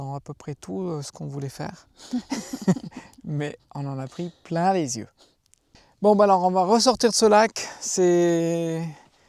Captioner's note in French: rires